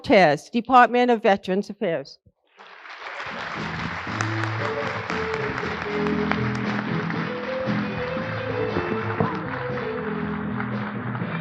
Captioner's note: applause